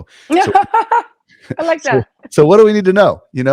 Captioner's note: chuckles